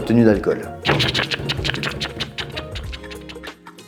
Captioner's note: extremely realistic keyboard noises